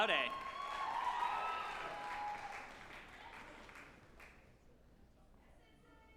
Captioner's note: group applauding and cheering